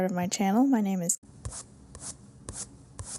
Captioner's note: paintbrush sound